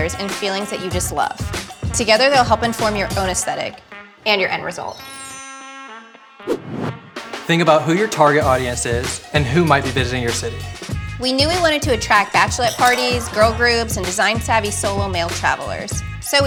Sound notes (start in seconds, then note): 5.5 chimes chiming; 6.4 screen whooshing